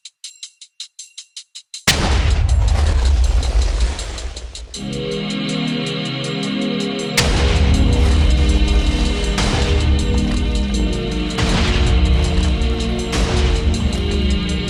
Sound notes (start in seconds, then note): 1.9 explosion sounds